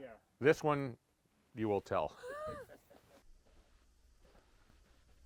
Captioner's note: laughs